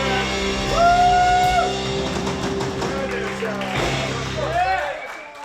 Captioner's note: audience cheers